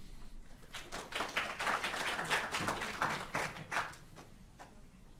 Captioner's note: audience applauding